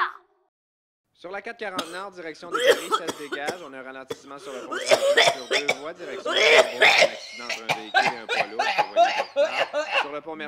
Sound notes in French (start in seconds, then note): 2.5 Tousse; 4.0 Tousse super fort; 7.3 Tousse comme le yable